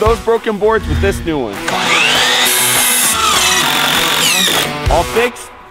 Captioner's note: machine whirring